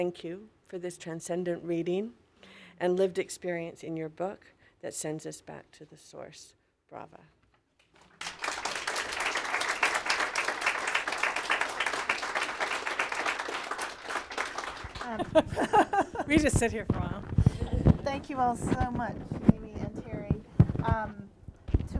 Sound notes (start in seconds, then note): 8.3 applause; 15.0 laughter